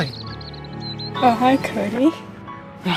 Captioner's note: birds chirping